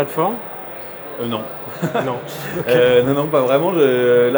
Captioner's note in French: Rires